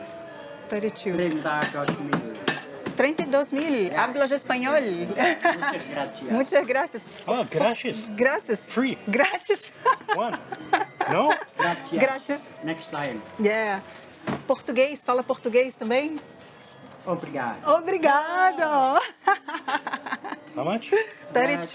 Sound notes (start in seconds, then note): 1.3 in Spanish; 4.0 in Spanish; 9.6 laughs; 16.1 in Portuguese; 18.9 laughs; 21.5 in Spanish